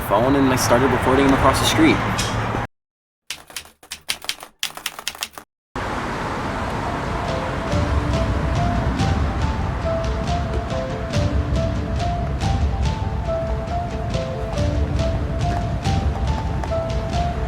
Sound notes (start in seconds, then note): 3.3 keyboard keys clicking; 5.8 air whooshing; 5.8 dramatic music